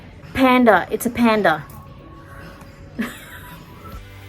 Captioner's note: scoffs